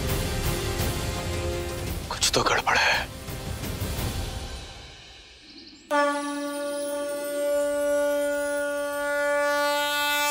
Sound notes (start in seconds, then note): 5.9 conch shell blowing